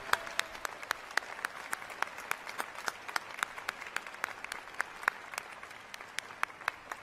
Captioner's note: applause